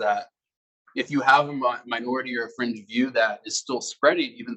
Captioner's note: male Voice